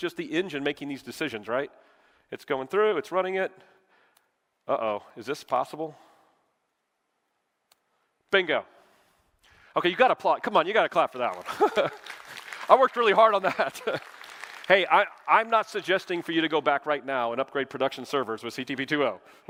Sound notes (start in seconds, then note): 11.1 applause